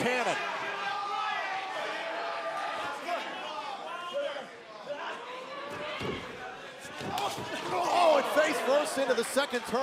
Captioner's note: crowd chatter